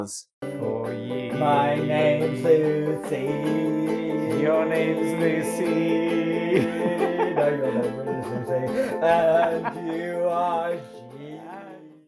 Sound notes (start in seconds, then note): 6.3 laughs